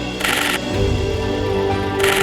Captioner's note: shutter noises